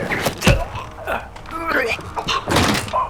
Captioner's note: choking